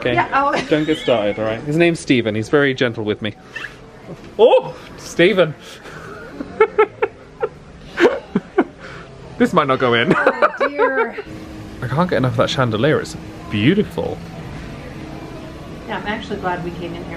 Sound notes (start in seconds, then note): 0.4 laughs; 6.3 laughing